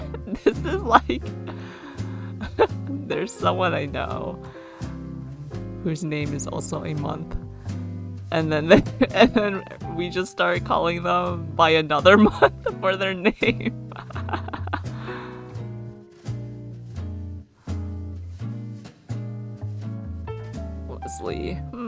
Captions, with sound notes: [laughs] This is like- There's someone I know whose name is also a month. And then we just started calling them by another month for their name. [laughs] Leslie